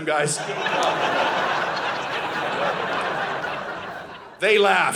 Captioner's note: audience laughing